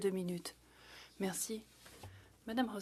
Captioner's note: speaking French